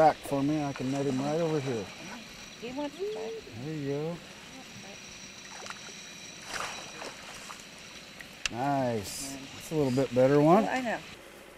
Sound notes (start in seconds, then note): 2.5 fish splashing; 7.0 fish splashing